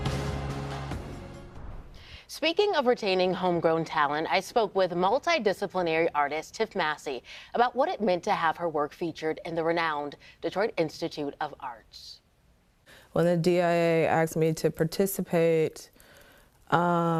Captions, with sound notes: (logo swooshes) - Speaking of retaining homegrown talent, I spoke with multidisciplinary artists, Tiff Massey, about what it meant to have her work featured in the renowned Detroit Institute of Arts. - When the DIA asked me to participate,